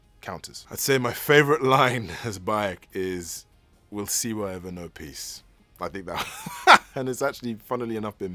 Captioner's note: laughs